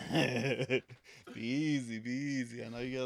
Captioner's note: laughing